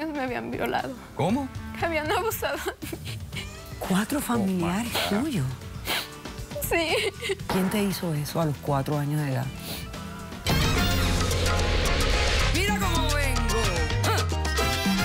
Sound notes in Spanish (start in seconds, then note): 2.6 sollozos